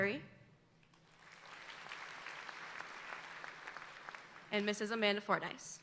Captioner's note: audience applauding